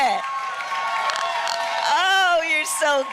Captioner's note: applause